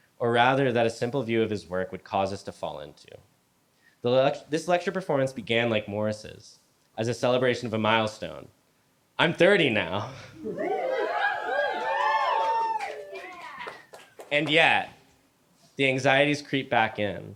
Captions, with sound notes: or rather, that a simple view of his work would cause us to fall into this lectur- This lecture performance began, like Morris's, as a celebration of a milestone. I'm 30 now. [crowd cheers] And yet the anxieties creep back in.